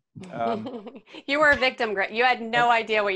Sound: laughs

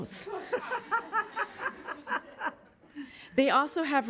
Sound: woman laughing loudly

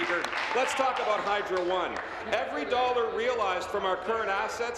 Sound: applause

